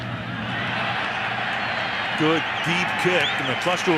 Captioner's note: cheering